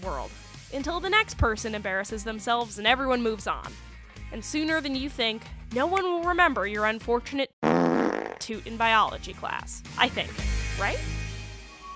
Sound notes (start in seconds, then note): 7.6 fart